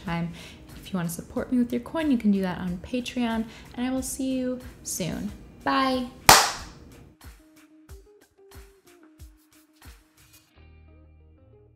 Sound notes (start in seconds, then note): 6.3 clap